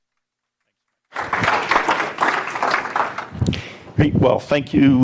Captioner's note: audience applauds